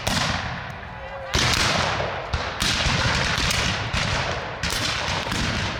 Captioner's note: gunshot firing continues